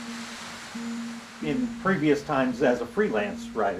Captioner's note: waves lapping